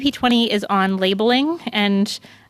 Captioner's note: speaking french